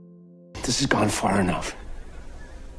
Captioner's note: voiceover